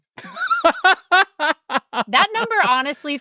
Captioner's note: laugh